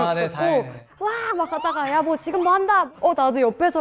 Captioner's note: screaming or broadcasting